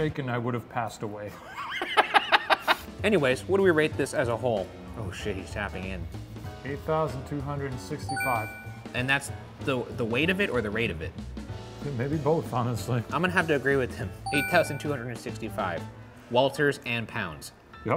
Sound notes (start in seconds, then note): 1.4 laughing; 8.1 bell dinging